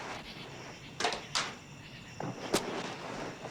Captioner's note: door opens